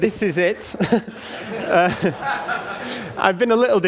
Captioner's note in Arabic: ضحك